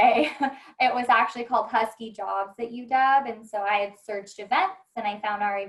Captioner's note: laughter